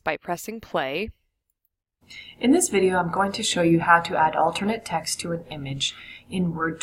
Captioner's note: video audio playing